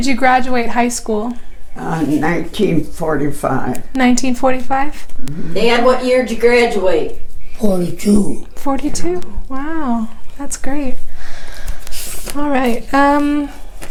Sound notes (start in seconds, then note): 0.0 laughing; 1.8 shuffling papers